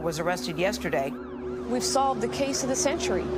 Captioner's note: police sirens wailing